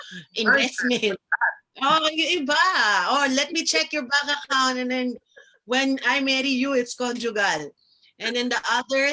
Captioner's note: in tagalog